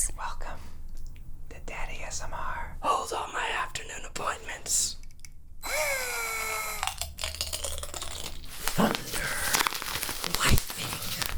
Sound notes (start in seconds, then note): 5.6 whirring; 6.7 crinkling; 6.8 loud crunching